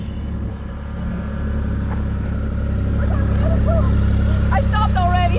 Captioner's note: motorcycle engine roars